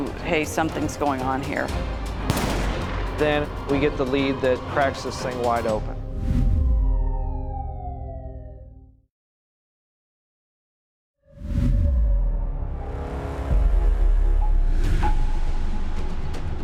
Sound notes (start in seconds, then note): 2.2 gun firing; 6.5 police sirens blaring; 13.6 dramatic music